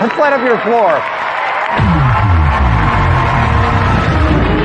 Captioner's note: cheering and applause; dramatic music